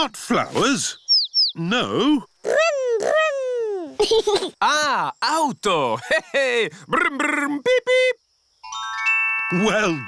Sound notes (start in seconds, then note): 3.8 giggles